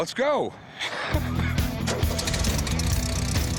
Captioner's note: laughs